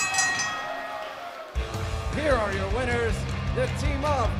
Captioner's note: bell ringing